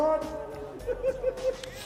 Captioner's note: laughing